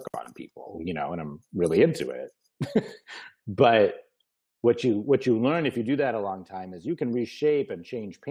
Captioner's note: laughs